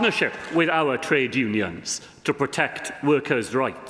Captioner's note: applause